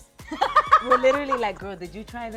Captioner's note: laughing